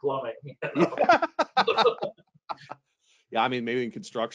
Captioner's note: laughs